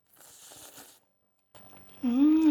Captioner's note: Maangchi slurping